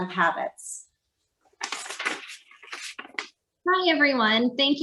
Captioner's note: paper rustling